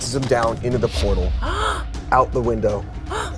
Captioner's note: gasps